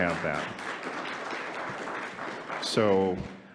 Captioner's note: audience applauding